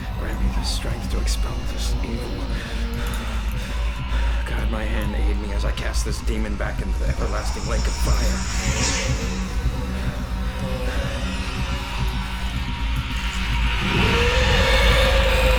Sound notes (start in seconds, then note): 2.9 breathing heavily; 8.7 groaning; 14.3 growling